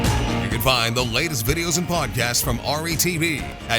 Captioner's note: voiceover